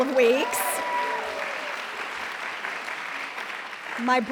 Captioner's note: applause